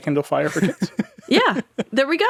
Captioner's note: laughing